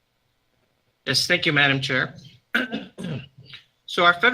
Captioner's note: clears throat